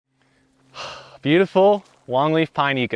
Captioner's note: sighs contentedly